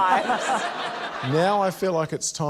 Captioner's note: laughter